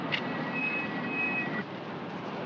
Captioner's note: jeep brakes squeal